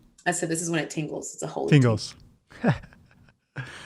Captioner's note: laughing